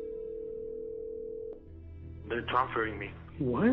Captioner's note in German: telefon klingelt